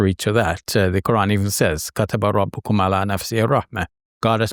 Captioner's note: speaking Arabic